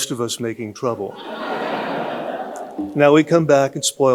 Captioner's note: audience laughing